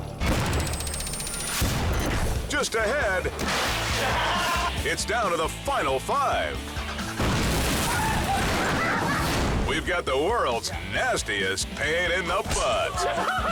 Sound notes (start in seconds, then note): 0.4 countdown squeals; 3.4 milk splashes; 4.2 husband laughing; 7.2 car explodes